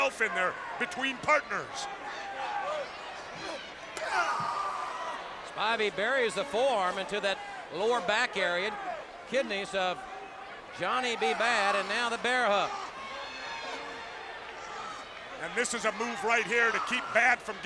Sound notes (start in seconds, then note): 3.8 forearm thuds; 4.7 Badd screams